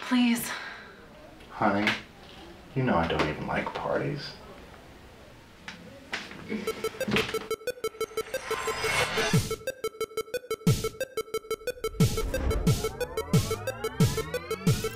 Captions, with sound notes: - Please. - [Voiceover] Honey, you know I don't even like parties. (electronic music)